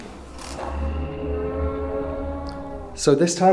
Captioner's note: muffled groaning